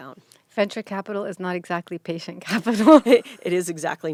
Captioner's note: laughing